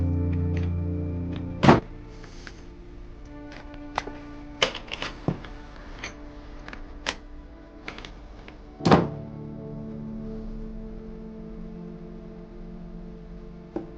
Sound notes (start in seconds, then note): 0.2 door clatters; 0.2 gentle music; 6.3 door rattles; 6.3 door thunks; 11.3 gentle music